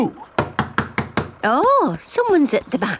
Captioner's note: knocking at door